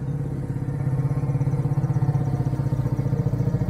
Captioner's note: engine sound fades in